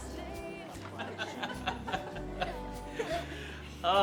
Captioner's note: laughing